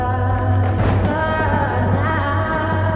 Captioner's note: lightning, thunder